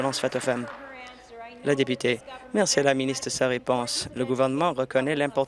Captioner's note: applause